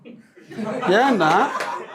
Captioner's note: laughter